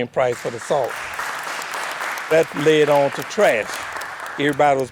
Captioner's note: group applauds